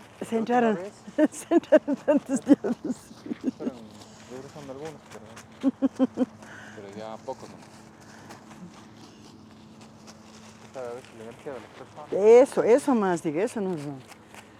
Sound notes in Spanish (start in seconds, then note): 1.0 risas